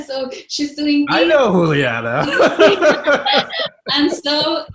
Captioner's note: laughing loudly